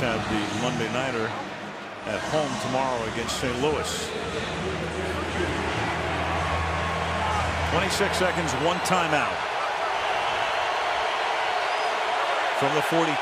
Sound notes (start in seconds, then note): 4.6 pa announcement; 6.4 cheering